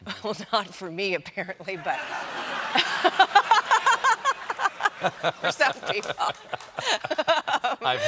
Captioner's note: laughter